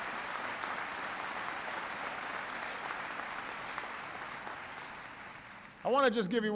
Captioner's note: applause